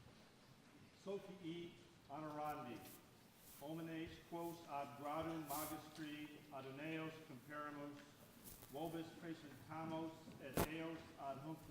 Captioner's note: speaking latin